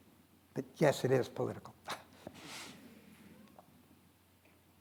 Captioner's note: chuckles